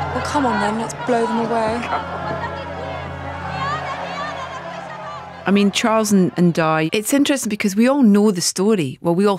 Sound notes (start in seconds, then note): 1.5 background screaming